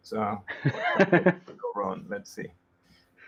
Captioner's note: laughs